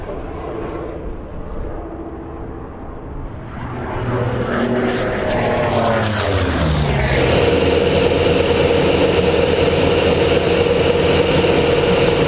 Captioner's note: engine roaring